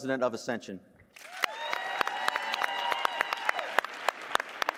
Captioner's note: cheers, applause